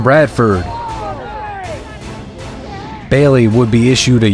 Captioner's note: crown groans